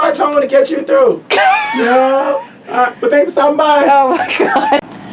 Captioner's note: laughs